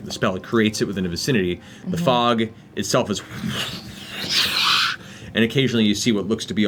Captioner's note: whooshing noises